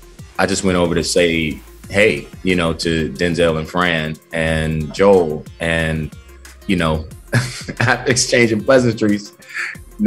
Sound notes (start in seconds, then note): 7.3 chuckles